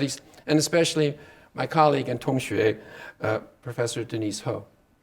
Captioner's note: speaking Chinese